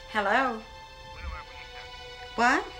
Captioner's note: speaking gibberish